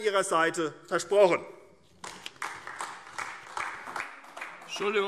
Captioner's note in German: Beifall AfD